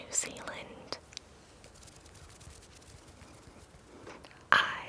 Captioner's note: fingers fluttering